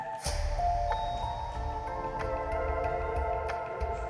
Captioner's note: elevator dings